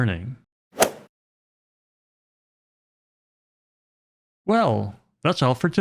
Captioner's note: golf swing sound effect